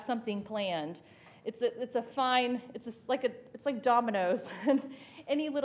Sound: chuckles

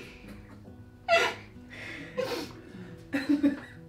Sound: laughing

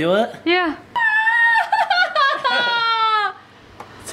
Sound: yelling painfully

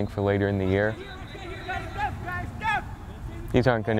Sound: players talking and yelling

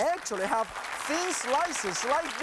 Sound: clapping

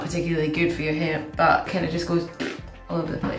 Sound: blowing raspberry

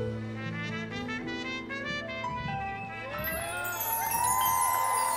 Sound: subtle jazz music; crowd cheering

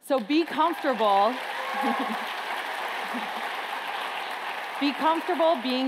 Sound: applause

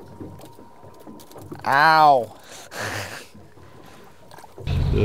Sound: laughs

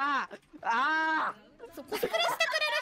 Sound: in pain

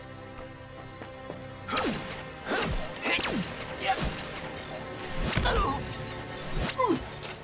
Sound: grunting; buzzing, chiming

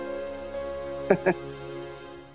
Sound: chuckling

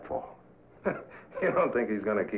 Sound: laughing

